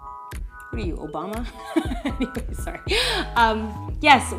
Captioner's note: laughs